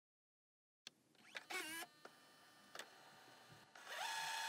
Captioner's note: film rolling